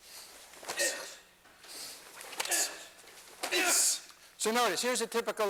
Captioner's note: vocalizing with each punch